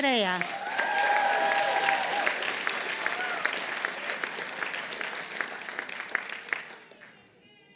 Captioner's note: applause